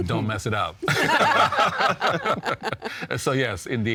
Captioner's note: all laughing